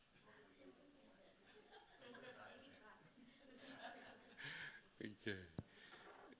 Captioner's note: audience laughing